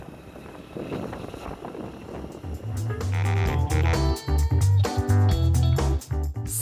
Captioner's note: motorbike engine; funky jazz music